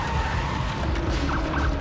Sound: sirens wailing; tires screech

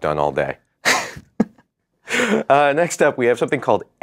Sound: laughter

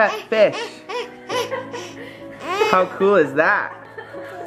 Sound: laughing excitedly

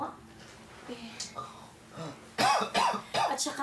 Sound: Samuel coughing

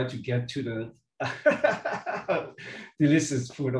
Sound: speaker laughing

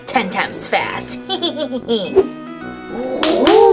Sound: laughs; clapping

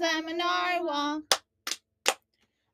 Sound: clap, clap, clap

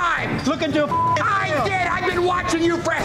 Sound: beeping

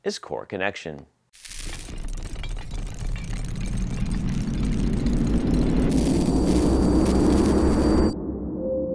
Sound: brick building and electronic sounds

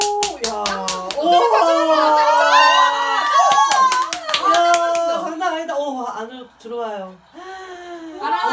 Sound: cheering

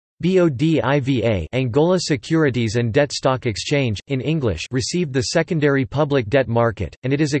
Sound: Angola Securities and Debt Stock Exchange, in English

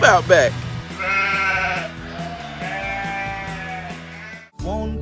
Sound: sheep noises baa, baa

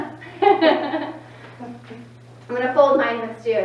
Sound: laughs

